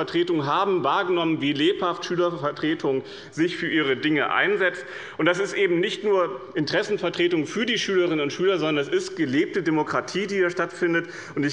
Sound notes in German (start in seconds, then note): none